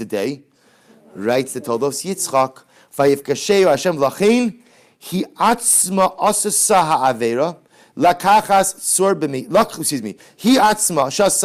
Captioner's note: Hebrew